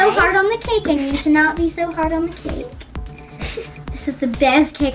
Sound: laughs

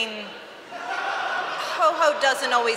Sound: laughter

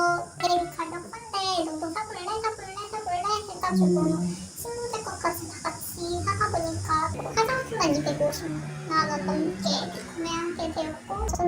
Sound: voiceover

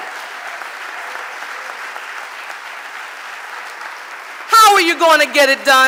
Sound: audience applauding

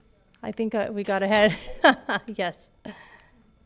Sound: laughs

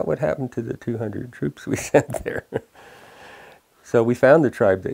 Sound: laughs

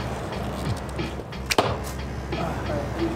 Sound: arrow impacts

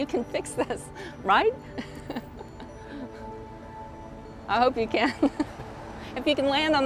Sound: laughing

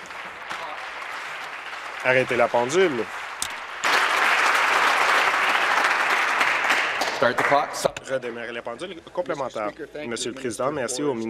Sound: applause

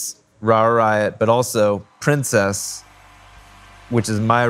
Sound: crowd cheering

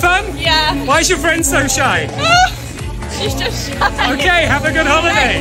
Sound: laughs

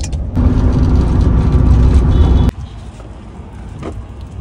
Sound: van whooshing

